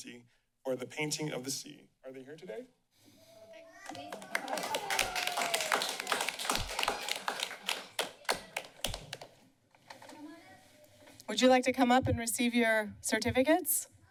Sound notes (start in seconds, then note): 3.8 applause